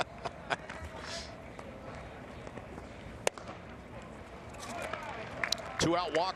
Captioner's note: laughter